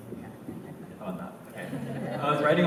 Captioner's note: laughter